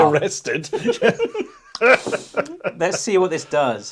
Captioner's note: both laughing